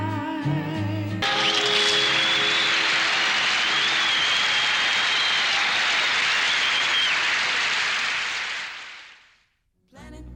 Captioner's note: crowd applause